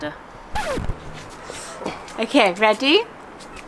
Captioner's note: record scratches